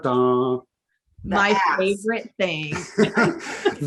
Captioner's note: laughing